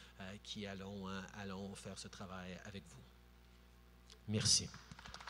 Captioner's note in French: Applaudissements